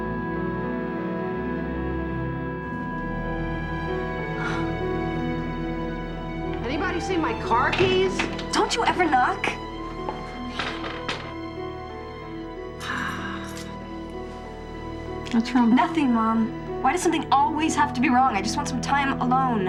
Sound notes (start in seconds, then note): 6.5 door opens